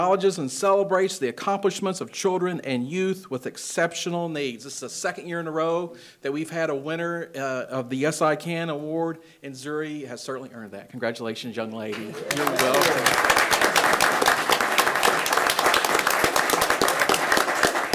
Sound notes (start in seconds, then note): 11.9 attendees applauding